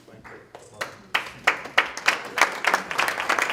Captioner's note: applause